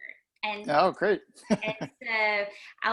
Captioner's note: laughing